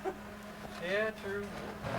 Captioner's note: laughs